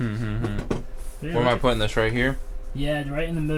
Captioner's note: Thomas chuckles